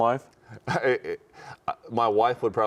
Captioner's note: chuckling